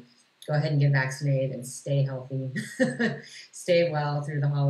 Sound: laughs

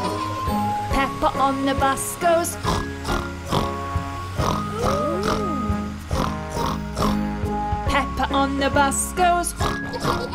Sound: snort; snort

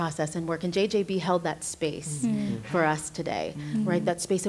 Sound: others agreeing

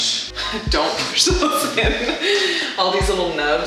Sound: laughing

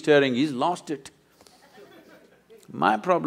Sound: few laugh

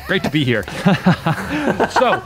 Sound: laughs

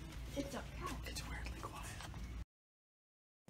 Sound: whispering

